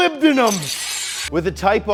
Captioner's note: claws screeching